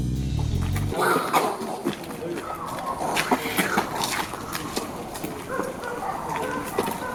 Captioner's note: sudden mouth made flying noises